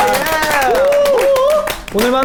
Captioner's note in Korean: 환호